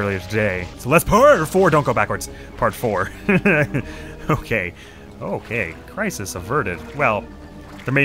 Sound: fearfully chuckles

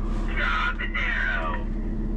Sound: man On Radio

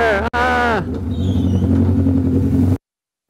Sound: yells

